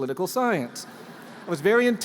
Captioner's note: laughter